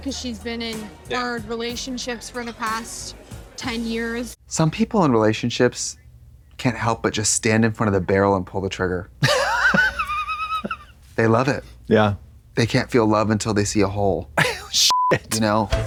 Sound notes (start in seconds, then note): 9.2 Katya laughs; 14.9 beep